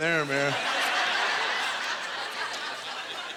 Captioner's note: audience laughter